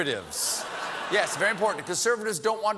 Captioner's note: laughter